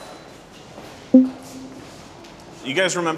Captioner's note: poll result beeps